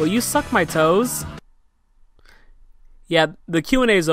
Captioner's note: angry silence